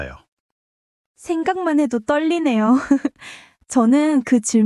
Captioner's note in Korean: 웃음